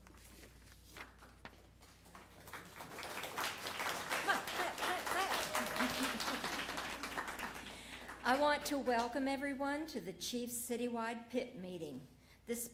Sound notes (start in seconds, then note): 8.2 applause